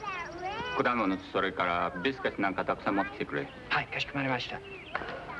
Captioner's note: speaking foreign language